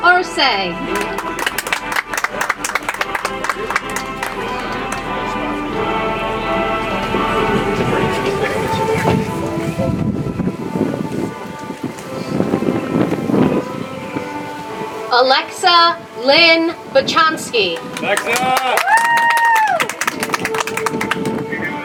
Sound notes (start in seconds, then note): 0.8 audience applauds; 5.4 soft music; 17.7 audience applauds